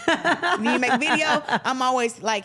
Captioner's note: laughs